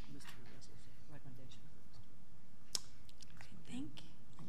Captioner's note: whispering